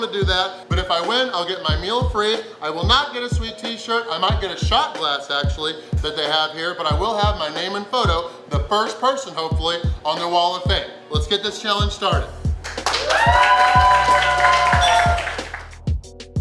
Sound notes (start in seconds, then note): 12.6 cheering & Clapping